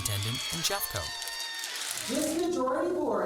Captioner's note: crowd cheering